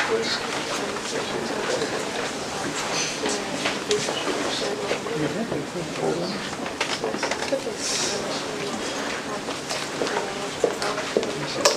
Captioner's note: background chatter